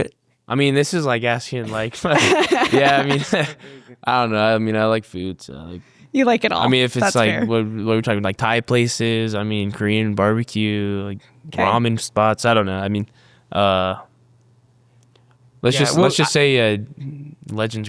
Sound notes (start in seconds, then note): 1.6 laughs happily